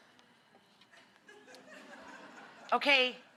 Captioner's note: audience laughs